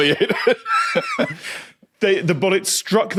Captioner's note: wheeze